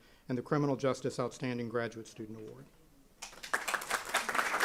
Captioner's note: applause